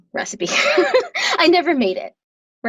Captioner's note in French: rires